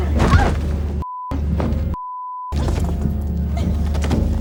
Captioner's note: body crashing; objects crashing; dramatic music